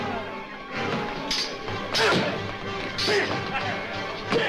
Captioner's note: grunting; men Laughing